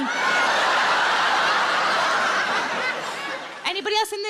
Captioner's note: audience laughs